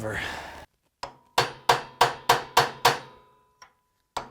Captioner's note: hammering